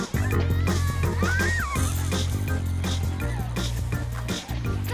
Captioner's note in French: gazouillis d'oiseaux